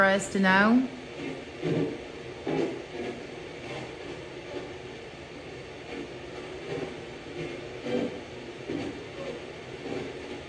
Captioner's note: light machine noise